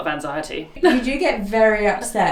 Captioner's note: laughs